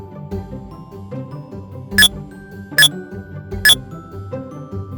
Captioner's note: MindBlower beeps